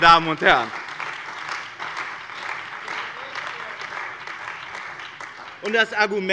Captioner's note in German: Beifall bei dem BÜNDNIS 90/DIE GRÜNEN und der CDU